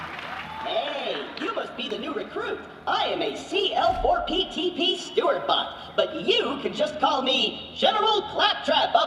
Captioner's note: cheers and applause